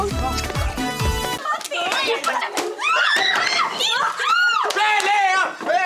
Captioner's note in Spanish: Gritos